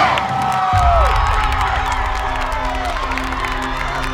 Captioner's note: cheering